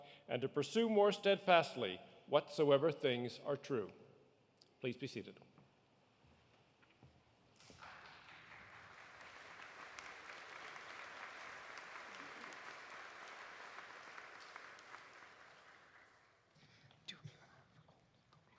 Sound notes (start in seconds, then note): 7.6 audience applauding; 14.1 applause continues